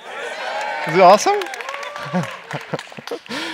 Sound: cheers

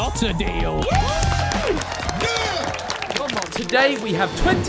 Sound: people clapping

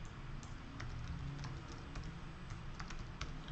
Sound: typing

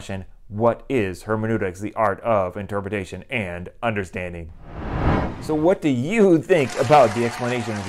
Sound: applause

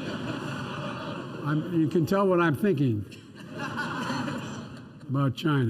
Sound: laughter; laughter

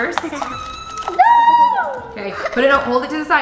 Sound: kids shout in excitement

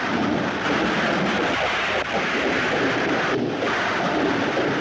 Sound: thunder Rumbling

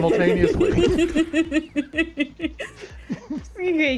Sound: laughing

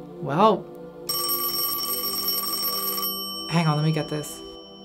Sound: phone rings

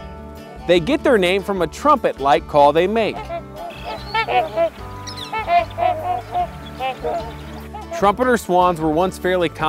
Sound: swan sound

